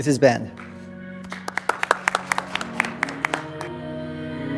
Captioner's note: audience clapping